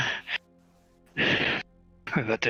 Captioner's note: Krel inhale